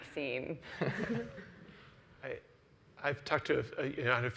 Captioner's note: laughs